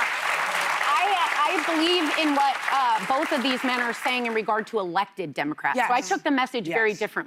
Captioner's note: applause